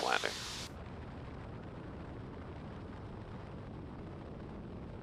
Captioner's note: air whooshing